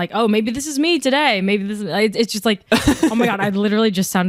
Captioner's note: chuckles